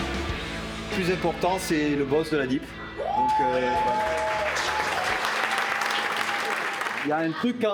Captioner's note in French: applaudissements